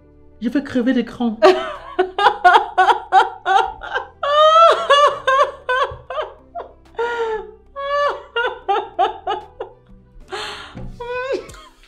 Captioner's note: laughs